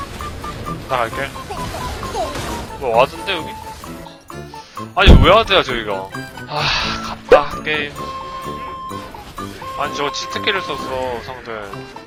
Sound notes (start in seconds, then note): 6.5 sighing